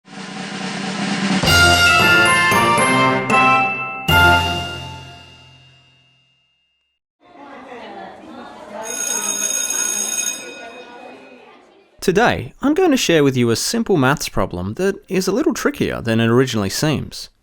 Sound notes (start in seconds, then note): 1.4 upbeat music; 7.3 bell ringing over children chattering